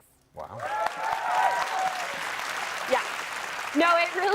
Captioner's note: cheering